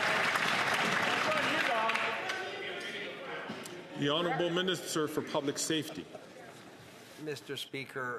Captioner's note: some Applause